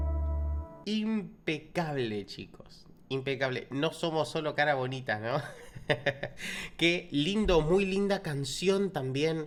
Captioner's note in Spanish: risas